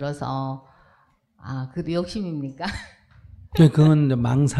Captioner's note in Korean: 웃음